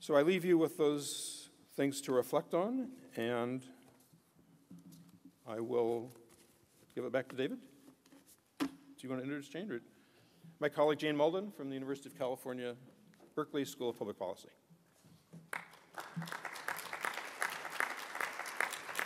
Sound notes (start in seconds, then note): 15.5 applause